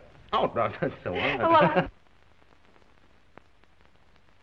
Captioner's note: both giggling